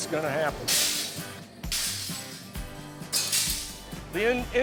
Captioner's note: glass crashing